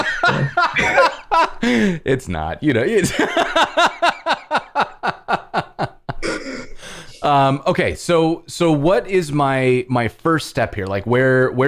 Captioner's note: laughter